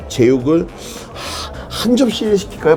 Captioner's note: sighs